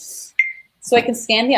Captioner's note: beep